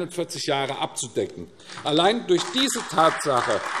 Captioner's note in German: Beifall AfD